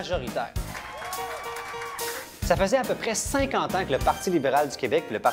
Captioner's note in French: applaudissements